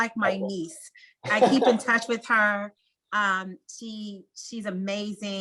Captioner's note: laugh